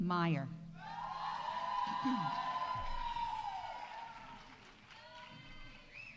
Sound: audience cheering; audience applauding

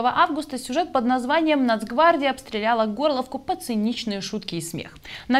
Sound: Ukrainian

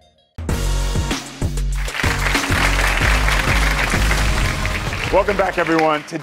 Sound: dramatic music; audience applauds

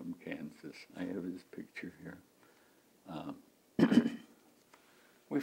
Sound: clears throat

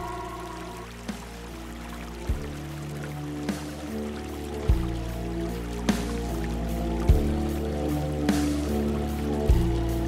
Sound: creek flowing, creepy song

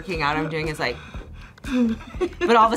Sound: laughs

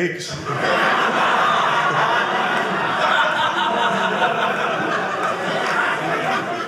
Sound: audience laughing

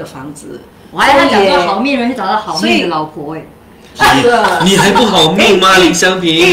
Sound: laughter

